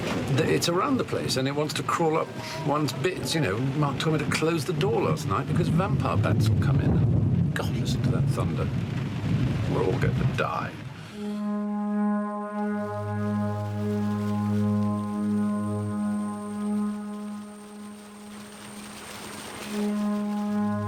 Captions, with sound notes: It's around the place and it wants to crawl up one's bits. Mark told me to close the door last night because vampire bats had come in. (thunder rumbling) God, listen to that thunder. We're all going to die. (ominous music)